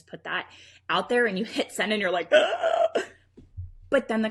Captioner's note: anxious groans